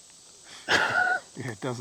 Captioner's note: laughs